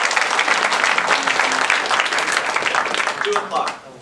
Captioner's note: applause